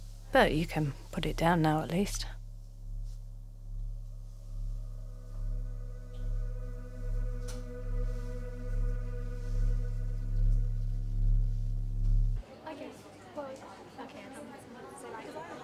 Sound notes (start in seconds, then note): 5.4 # Ominous music; 9.2 the orb makes a whirring sound; 12.3 indistinct chatter, distant laughter